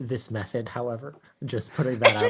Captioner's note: laughs